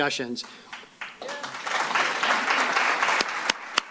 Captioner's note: applause